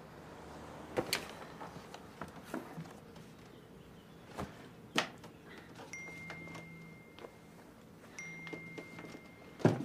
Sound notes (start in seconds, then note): 5.9 message tone dinging, phone vibrating